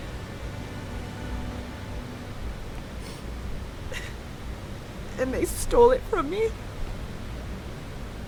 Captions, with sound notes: [sniffles] And they stole it from me.